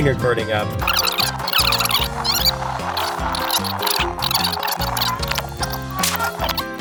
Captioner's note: bright music; video rewinding